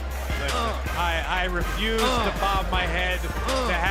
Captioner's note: crowd cheering